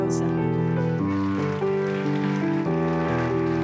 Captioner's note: applause